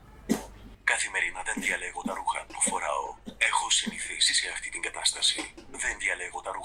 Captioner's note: achmet – artificial male voice